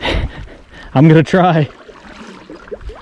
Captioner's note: laughs